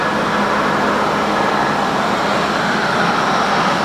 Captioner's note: concrete Polishing Noises